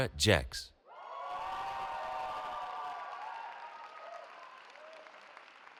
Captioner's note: cheering